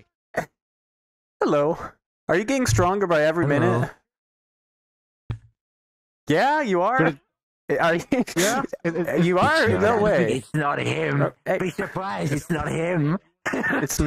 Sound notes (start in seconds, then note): 7.8 laughs; 13.4 maniacle laugh